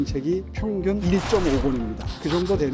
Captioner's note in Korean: 강조되는 효과음